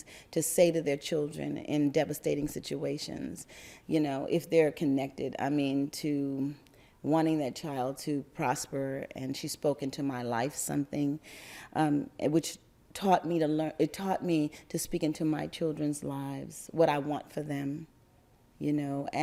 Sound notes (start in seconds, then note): none